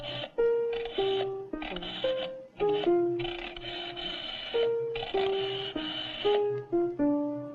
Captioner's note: phone clicks